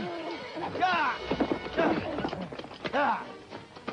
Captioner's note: speaks foreign language